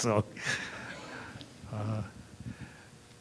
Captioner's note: laughter